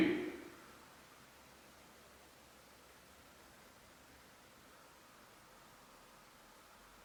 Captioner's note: silence